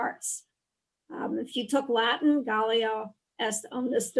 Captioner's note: woman speaking in foreign language